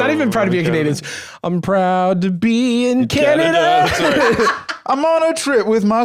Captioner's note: laughs